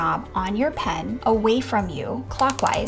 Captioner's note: pen clicking